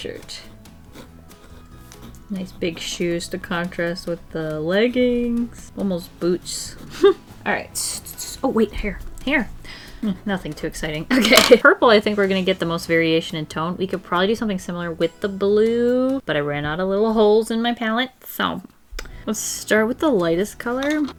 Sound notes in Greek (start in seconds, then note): 6.9 Σύντομο γέλιο; 11.2 Γέλια